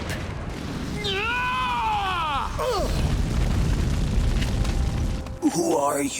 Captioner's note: yelling